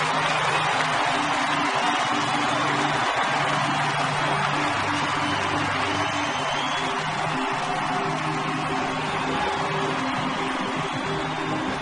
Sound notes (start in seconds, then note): 1.8 audience cheers and applauds; 6.4 hopeful orchestral music